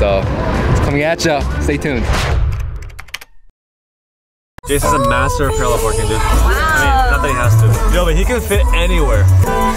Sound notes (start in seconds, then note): 1.7 swoosh; 2.5 keys clacking; 4.6 pop music